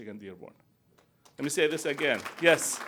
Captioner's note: applause